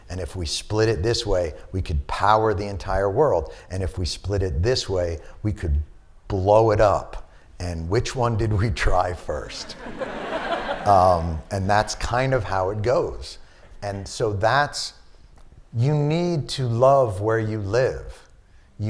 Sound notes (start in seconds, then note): 9.6 laughter